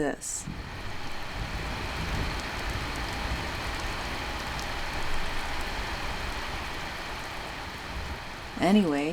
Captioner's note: an absolute deluge with thunder in between